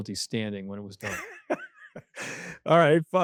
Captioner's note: laughing